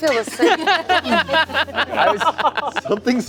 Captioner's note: laughing